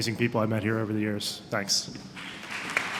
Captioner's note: applause